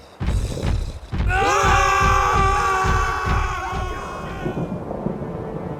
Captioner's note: Iron Golem growls